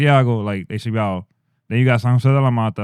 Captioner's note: speaking In Foreign Language